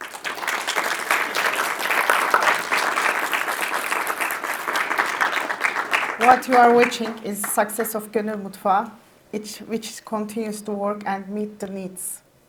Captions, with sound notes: (attendees clapping) What you are watching is success of (speaks in Turkish) which continues to work and meet the needs.